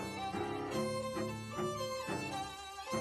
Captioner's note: none